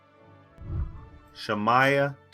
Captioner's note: whooshing